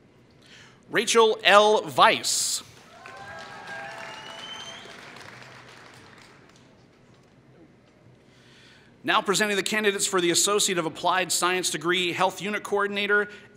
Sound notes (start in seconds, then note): 2.7 applause